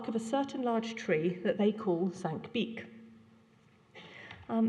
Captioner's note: non-english